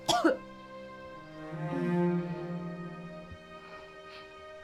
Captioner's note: Charlotte coughing